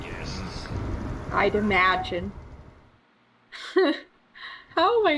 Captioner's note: laughs